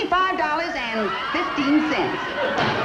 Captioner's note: audience laughing